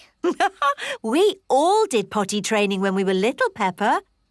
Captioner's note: laughs